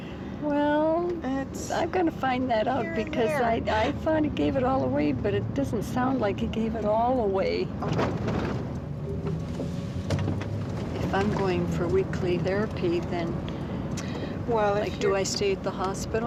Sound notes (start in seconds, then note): none